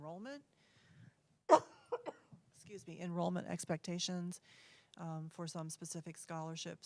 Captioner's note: cough